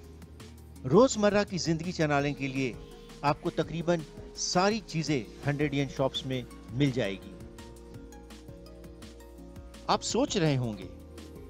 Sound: non-english speech

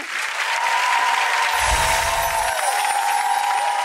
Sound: applause

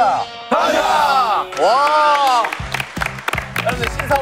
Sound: clap

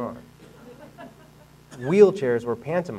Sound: audience laughing

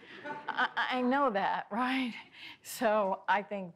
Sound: audience laughs

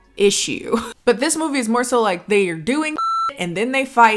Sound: beep

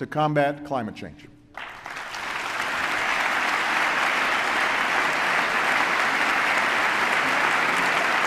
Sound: applause

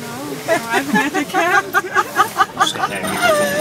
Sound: laughs

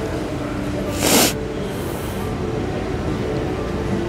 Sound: sobs

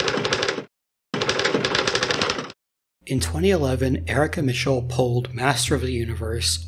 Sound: typing

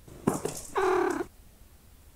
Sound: Broccoli trills with surprise

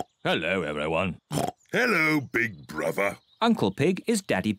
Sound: oinks

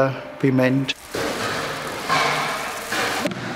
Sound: rumbling, clattering in the background

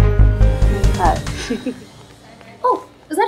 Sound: Vandy laughs

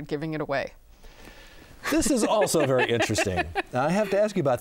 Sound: laughing

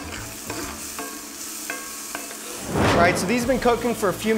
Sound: food sizzling

